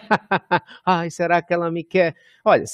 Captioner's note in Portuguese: risos